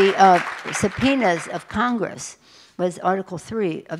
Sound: applause

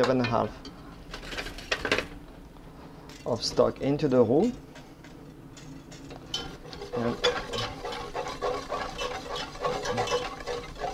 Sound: mixing sounds

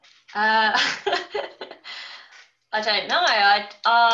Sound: laughing

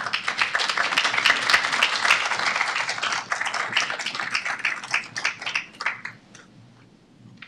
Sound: applause

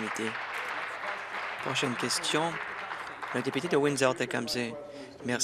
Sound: applause

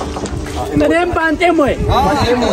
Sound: speeking in Sidama language

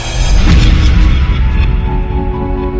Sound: bang; peaceful music

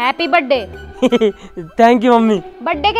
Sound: giggles

